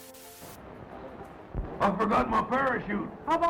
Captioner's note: TV static